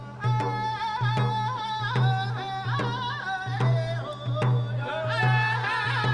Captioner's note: people chanting in Pamunkey language